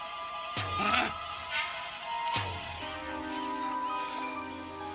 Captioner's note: man grunting